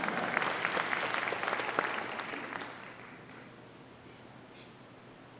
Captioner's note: audience applauding